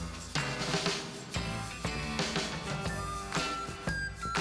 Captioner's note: none